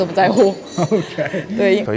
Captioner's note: laughs